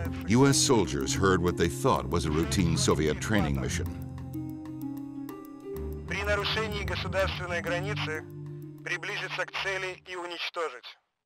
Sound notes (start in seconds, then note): 6.3 man speaking foreign language